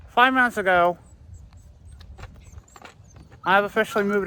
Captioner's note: Ella whimpers